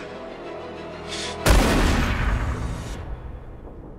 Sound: shotgun blast

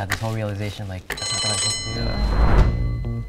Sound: bell rings; upbeat music

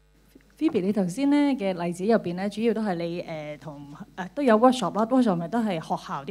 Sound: Cantonese

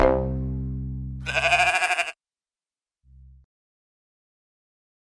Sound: sheep bleats

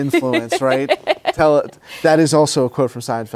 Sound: laughs

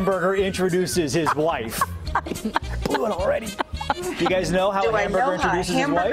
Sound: laughter

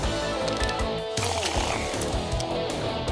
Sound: slurping

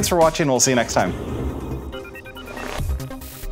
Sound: gadget beeping; thrilling music

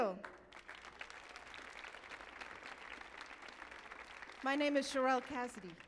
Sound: audience applauding

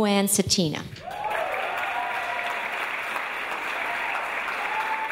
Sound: audience applause

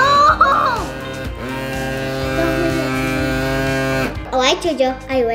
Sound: motor rumbles loudly

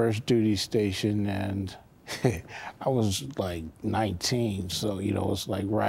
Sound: chuckles

